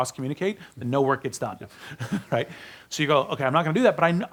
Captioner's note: laughs